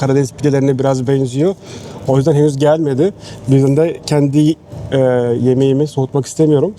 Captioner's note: Turkish